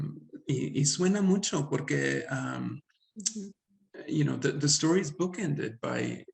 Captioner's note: speaks Spanish